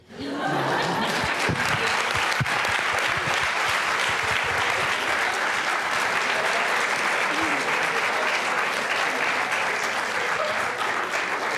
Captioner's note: applause